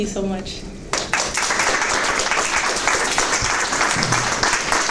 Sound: applause

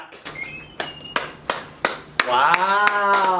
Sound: clapping

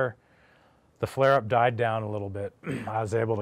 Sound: clears throat

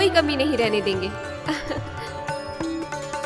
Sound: chuckles

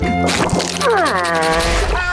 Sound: groaning; meowing

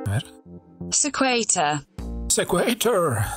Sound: Robotic voice of the Google Translator player, in English

